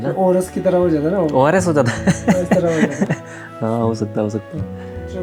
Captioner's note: laughs!